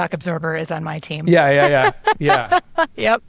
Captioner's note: laughs